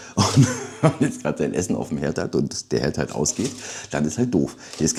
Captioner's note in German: gelächter